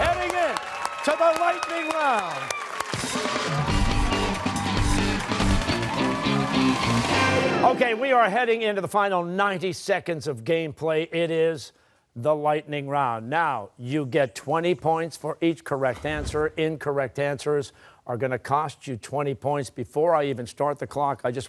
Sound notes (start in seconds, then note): 2.7 applause